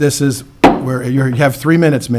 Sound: gavel taps

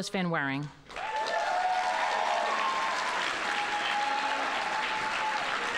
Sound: audience applauding

